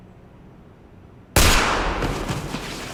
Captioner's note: gunshot